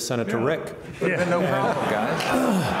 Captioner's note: all laugh